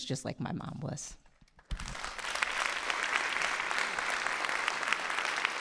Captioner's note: audience applauding